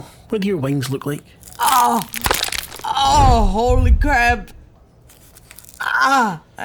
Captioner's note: pained sounds